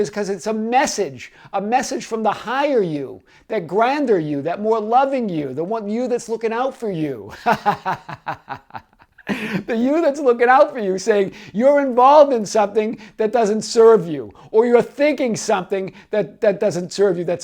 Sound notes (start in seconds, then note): 7.3 laughs